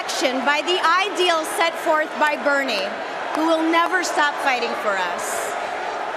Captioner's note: cheering and applause